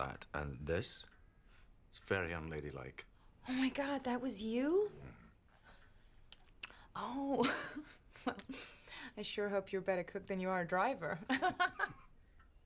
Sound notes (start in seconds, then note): 8.0 laughs; 12.0 laughs